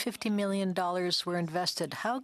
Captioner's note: speaking French